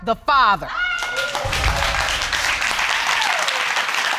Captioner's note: audience applauding